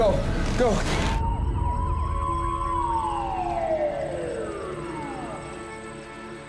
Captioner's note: sirens wailing